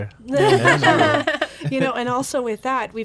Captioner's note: group laughs